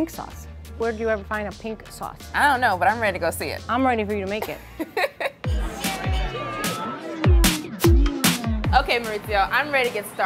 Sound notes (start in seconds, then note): 4.5 laughing; 5.4 customers chattering